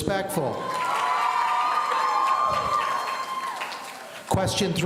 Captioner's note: audience cheering